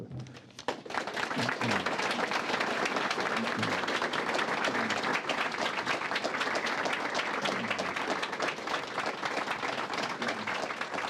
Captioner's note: applause